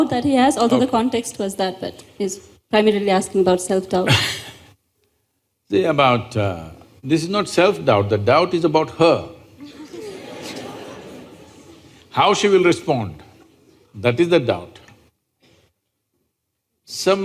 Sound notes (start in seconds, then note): 9.6 laughter